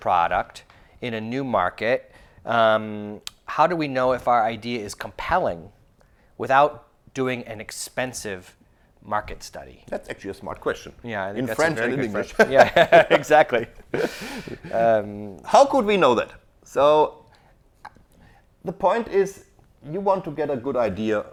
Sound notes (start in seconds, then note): 11.6 laughs